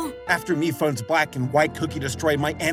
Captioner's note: none